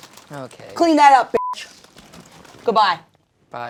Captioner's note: beep